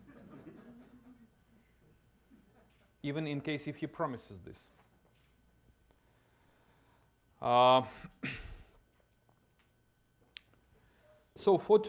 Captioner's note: laughter